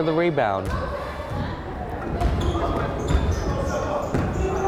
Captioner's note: crowd chattering